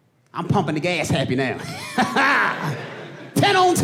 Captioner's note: laughs